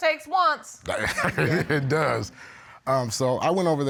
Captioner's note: laughs